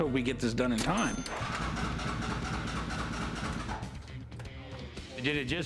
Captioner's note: engine stalling